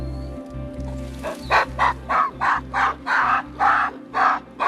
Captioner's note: lion grunts; monkeys grunting